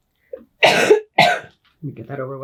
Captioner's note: coughing